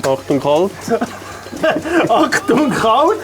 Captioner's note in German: lacht